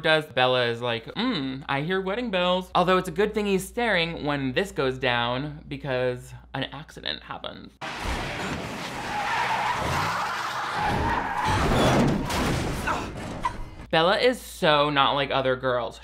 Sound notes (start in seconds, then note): 7.8 car crashing; 7.8 brakes screeching